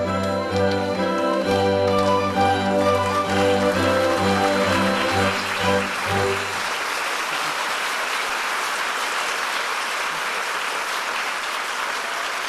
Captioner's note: applause